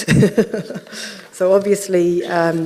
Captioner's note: laughing